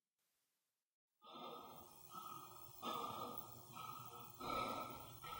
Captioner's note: panting